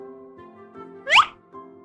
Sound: big funny stock slip sound effect

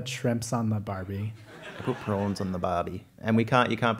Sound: laugh

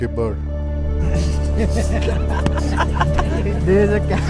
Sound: laughing

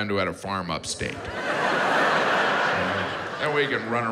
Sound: audience laughs

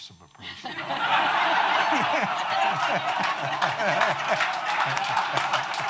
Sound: audience laughing and applauding

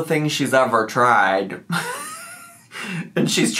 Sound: laughs

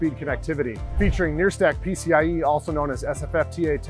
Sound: screen whooshing

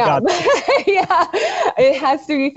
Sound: both laugh

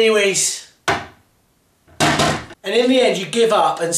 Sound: toilet seat bangs

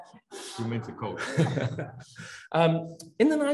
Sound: audience laughs; panelists laugh; laughs

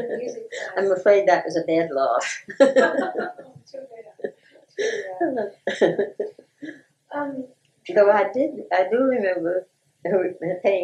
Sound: laughter

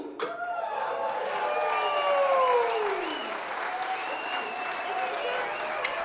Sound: audience cheering and applauding

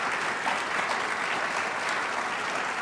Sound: applause

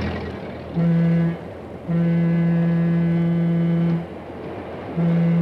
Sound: train whistle blaring

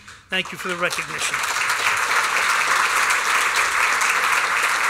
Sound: applause

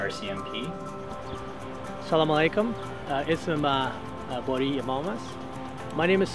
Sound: in Farsi

